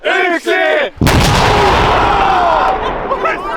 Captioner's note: screaming